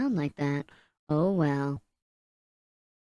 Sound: higher-pitched

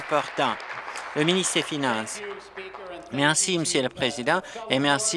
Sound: applause

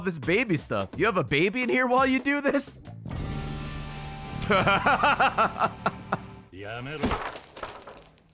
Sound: laughs

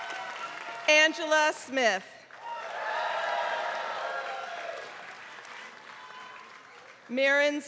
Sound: applause

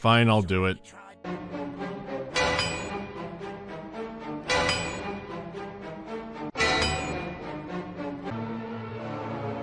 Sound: musical forging

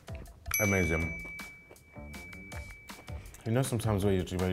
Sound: bell dings

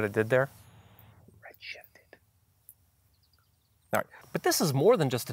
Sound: whispers

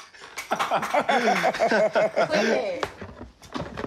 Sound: laughing

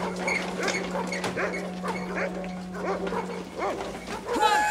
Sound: dogs barking

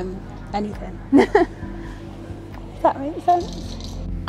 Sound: laughs

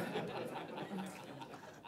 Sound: laughter

